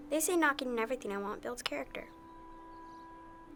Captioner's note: none